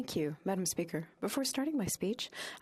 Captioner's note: speaking French